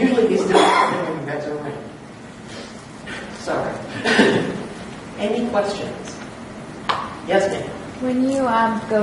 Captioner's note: someone coughs can't hear